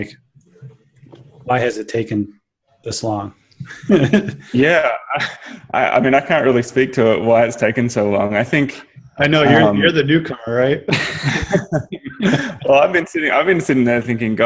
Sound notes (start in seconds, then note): 3.6 chuckles; 10.8 laughter